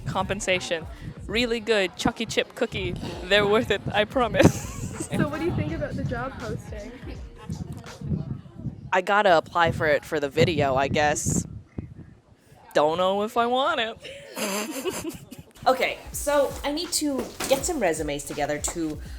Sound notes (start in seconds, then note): 14.0 girls laughing